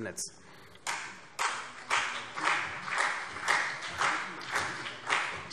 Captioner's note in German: Beifall CDU und BÜNDNIS 90/DIE GRÜNEN